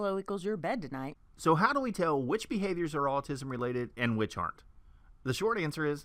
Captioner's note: man's voice